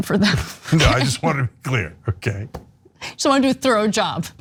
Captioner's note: laugh